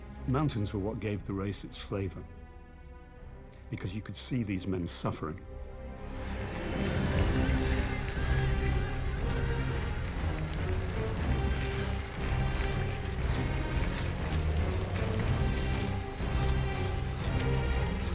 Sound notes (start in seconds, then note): 7.2 applause; 7.2 cheering